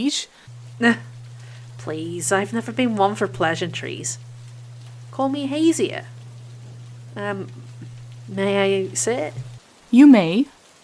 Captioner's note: light laughter